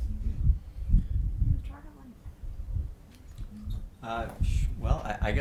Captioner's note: speaking off mic